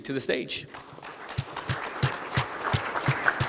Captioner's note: applause